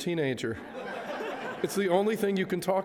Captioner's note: audience laughs